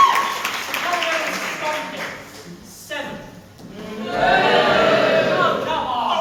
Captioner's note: audience boo